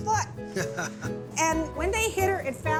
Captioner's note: chuckling